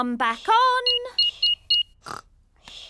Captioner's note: beeping